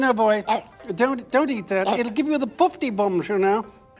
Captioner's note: dog barking